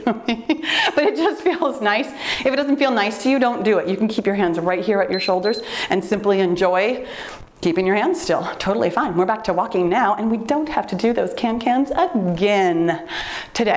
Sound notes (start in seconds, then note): 0.0 laughs; 5.1 timer beeps